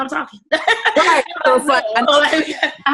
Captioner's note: laughing